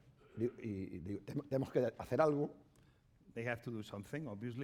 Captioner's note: speaking spanish